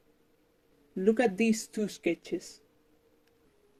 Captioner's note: voice starts distorting